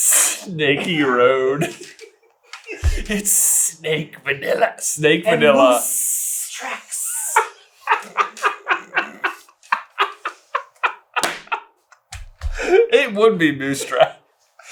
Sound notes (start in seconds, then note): 6.8 cracking up